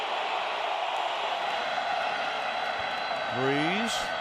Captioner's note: cheering